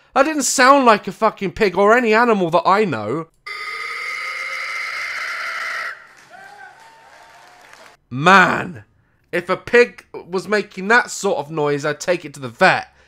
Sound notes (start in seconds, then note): 5.7 audience claps and cheers